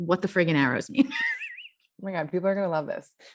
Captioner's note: laughs